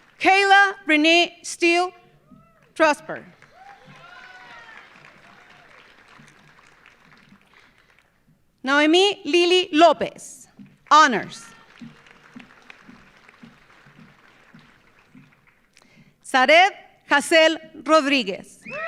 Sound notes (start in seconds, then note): 3.2 audience applauding; 3.3 audience cheering; 11.2 audience applauding